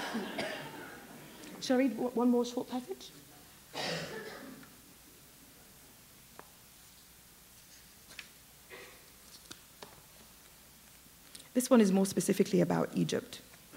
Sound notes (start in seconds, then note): 7.1 pause